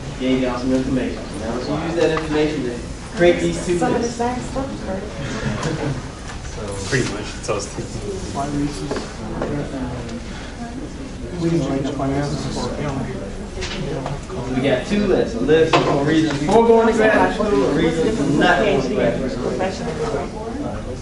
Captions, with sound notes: You've got some information, so now as you use that information to create these two lists. Some of the same stuff, or? Pretty much. (classroom chatter) You got two lists. A list of reasons for going to graduate school, or reasons not going to graduate school.